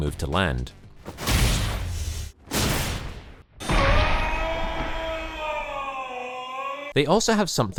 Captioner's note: satisfying Shoryuken sounds